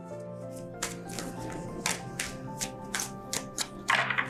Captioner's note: cards shuffling